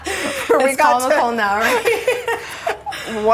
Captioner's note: laughter